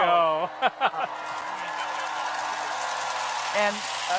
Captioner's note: crowd cheers; clappers clacking